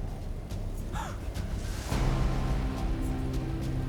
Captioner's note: tense music; gasps; tense music